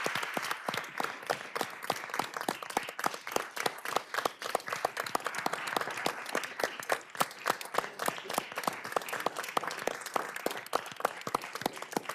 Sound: applause

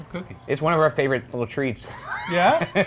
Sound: laughs

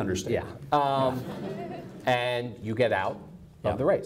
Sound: audience laughs

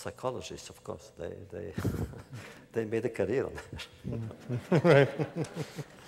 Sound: laughter

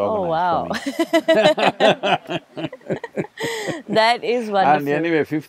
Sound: both laugh

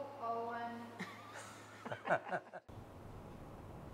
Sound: laughter

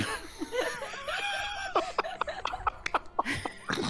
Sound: all laughing

